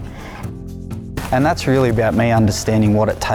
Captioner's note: voiceover